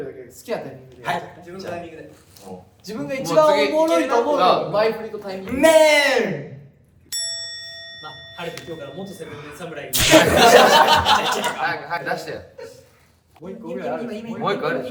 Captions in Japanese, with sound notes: 自分が一番おもろいと思う 前振りとタイミングで （効果音：チーン） （笑い声） 早く出してよ